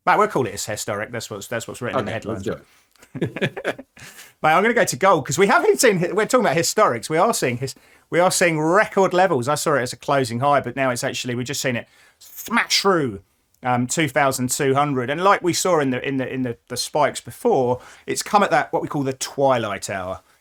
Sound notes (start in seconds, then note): 3.0 laughs